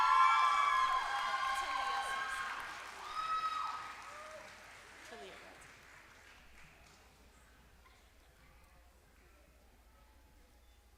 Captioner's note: applause